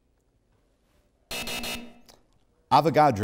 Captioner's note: buzzer